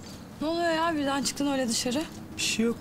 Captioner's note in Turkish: none